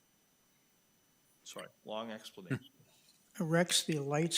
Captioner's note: chuckling